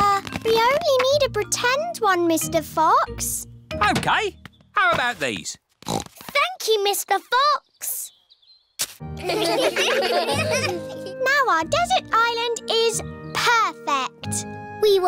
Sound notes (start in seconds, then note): 5.8 snorts; 9.2 laughter